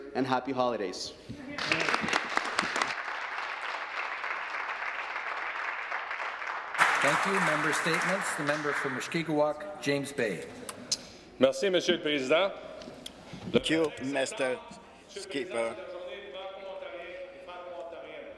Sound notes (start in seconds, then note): 5.3 speaking alternate language; 7.8 applause; 17.6 speaking french